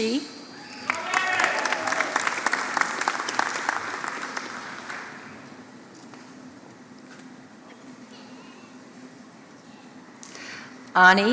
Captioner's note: applause